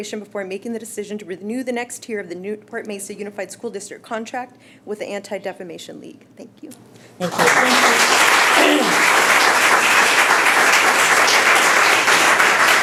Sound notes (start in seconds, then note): 7.2 applauding